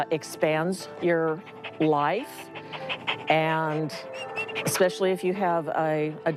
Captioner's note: dog makes panting sounds